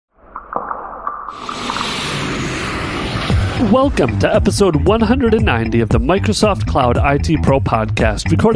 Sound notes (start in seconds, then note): 1.3 air whooshing